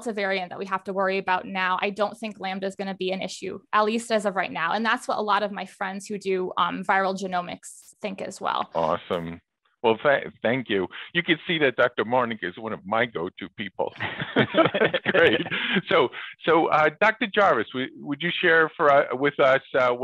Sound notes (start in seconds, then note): 13.7 laughs